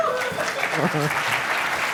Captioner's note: applause